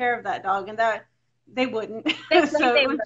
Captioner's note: laughs